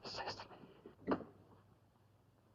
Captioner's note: door opens